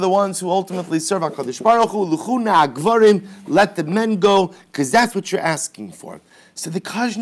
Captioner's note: Hebrew